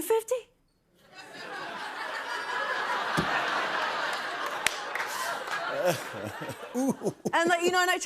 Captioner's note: laughter